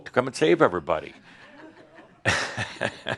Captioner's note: chuckles